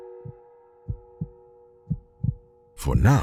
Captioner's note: cymbal ringing; heart beating